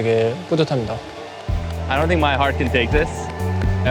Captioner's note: in English